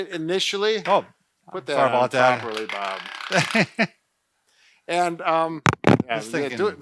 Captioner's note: laughs